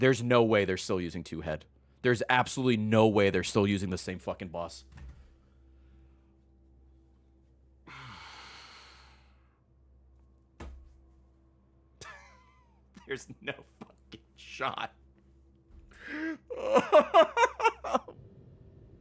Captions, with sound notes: There's no way they're still using two head. There's absolutely no way they're still using the same fricking boss. (sighs) There's no fricking shot. (laughs)